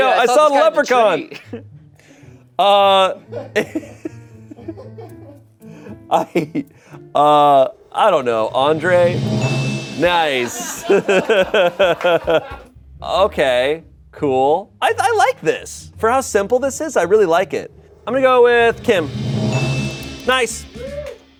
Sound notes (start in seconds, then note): 8.4 bell dings; 10.8 Shayne laughs; 18.6 bell dings